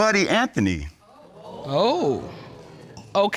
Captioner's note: audience exclaims